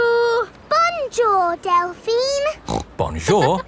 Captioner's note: snorts